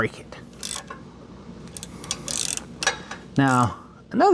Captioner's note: metal Clanking